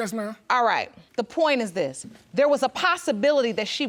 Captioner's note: none